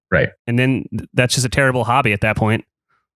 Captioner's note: laughs